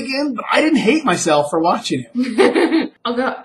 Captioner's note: laughs